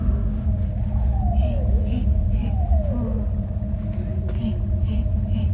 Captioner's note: breathing